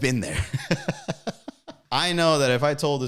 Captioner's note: commentator laughing